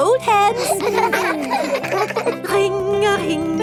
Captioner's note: giggling